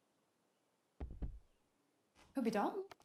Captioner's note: door knocking